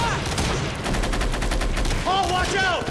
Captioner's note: guns firing